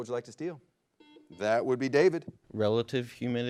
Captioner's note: buzzer blares